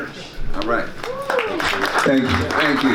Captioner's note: audience claps